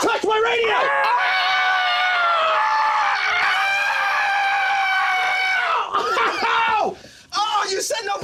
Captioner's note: screaming